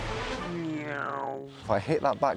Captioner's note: upbeat music; imitates plane